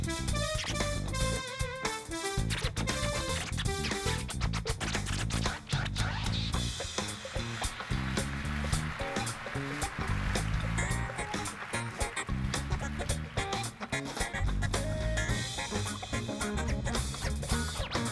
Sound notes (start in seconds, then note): 0.3 synth playing; 9.4 applause